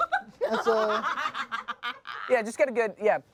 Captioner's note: everyone laughs